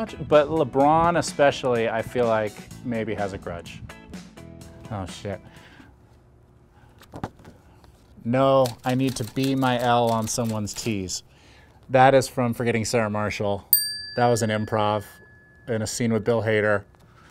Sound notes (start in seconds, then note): 13.7 bell dings